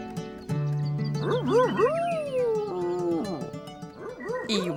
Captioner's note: howls